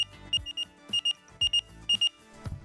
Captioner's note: beeping